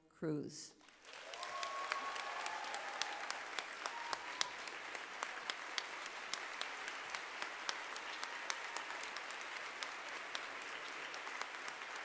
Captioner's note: applause